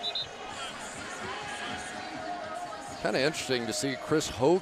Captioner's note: whistle